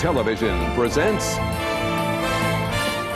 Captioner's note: none